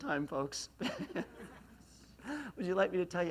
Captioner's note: laughs